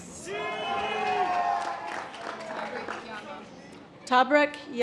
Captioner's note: audience applause